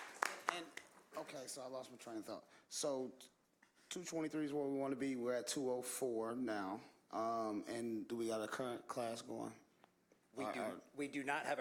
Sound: applause

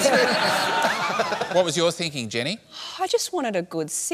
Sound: laughter

